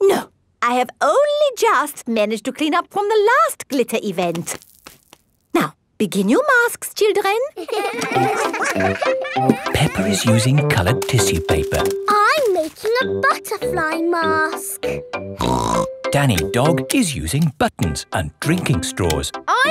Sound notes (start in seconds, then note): 7.5 all giggling; 15.4 snorts